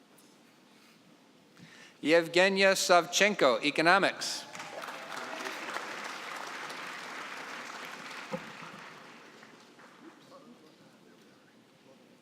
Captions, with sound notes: Yevgenya Savchenko, economics. (applause)